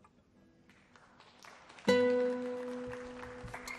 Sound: applause

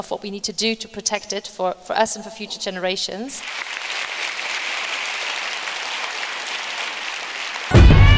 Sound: applause

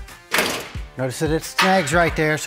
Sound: cover clanks

